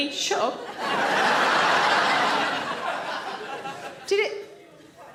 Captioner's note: audience laughs